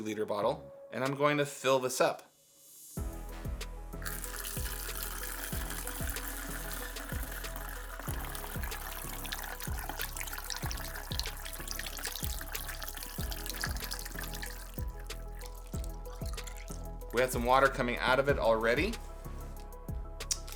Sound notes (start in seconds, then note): 4.2 water pouring